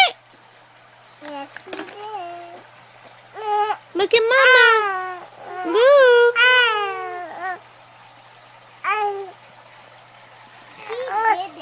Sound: baby coos; baby continues to coo

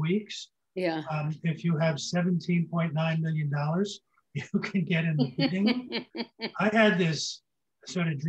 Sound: laughs

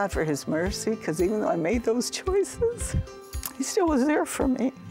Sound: weeping

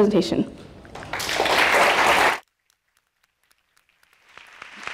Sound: audience applauding

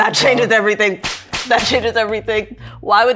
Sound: hands slapping

